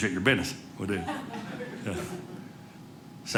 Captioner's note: audience laughing